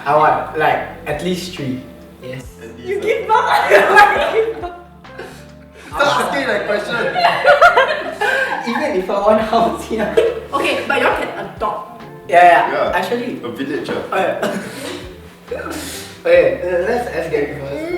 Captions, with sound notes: I want like at least three. Yes. *laughter* You give birth or your wife give birth? *laughter* Stop asking that question! Even if I want how sia? Okay but y’all can adopt. Yeah, yeah actually *laughs and then forgets what he’s gonna say* Okay let’s ask Gaby Yeah, a village ah.